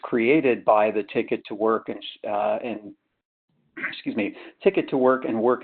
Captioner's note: clears throat